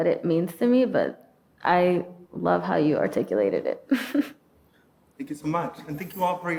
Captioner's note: laughing